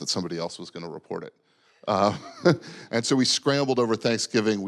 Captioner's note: laughing